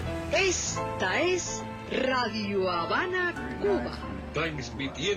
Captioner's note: radio speaking Spanish